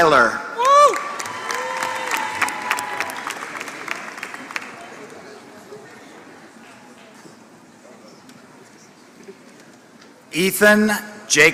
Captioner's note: applause